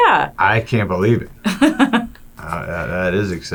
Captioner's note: laughing